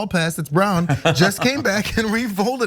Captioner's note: laugh